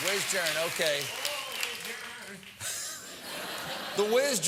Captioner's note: laugh